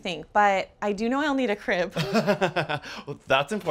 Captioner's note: laughs